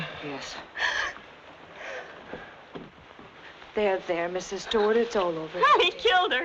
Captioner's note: Janet gasping